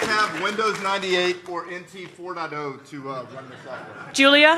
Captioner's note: laughter